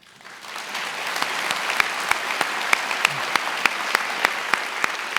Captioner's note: attendees applauding